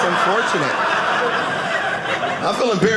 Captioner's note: audience laughing